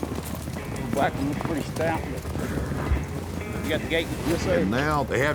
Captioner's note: cowboys chattering